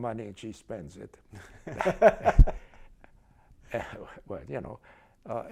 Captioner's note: laughter